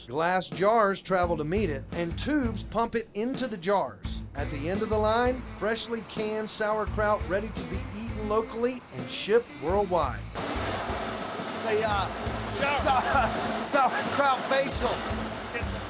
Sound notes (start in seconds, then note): 10.2 steam blowing